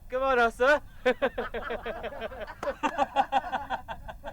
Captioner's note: laughing